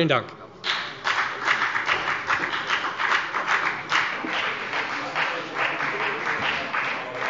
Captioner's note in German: Beifall bei der FDP